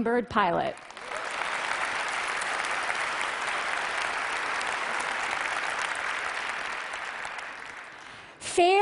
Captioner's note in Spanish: Aplausos